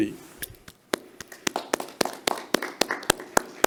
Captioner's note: clapping